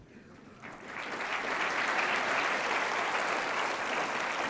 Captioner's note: applauding